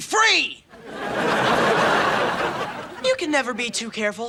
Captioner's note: audience laughing